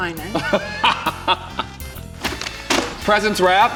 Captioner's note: laughs